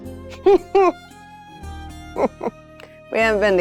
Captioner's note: chuckles